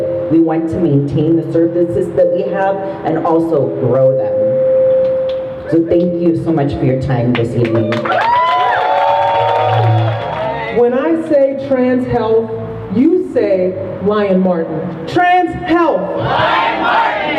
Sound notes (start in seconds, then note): 7.7 crowd cheers